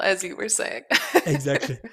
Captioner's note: laughs